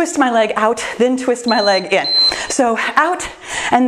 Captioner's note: timer beeps